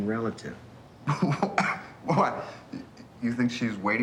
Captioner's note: chuckles and coughs